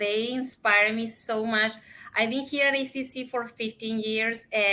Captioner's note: speaks in Spanish